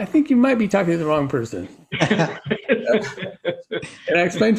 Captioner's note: all laughing